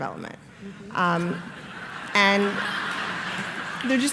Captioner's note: laughter